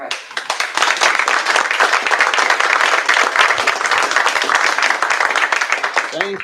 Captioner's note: applause